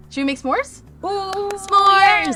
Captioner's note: claps happily